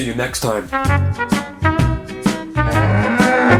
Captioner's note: light music; cow moos